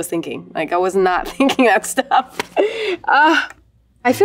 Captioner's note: laughs